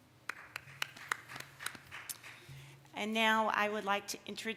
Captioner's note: applause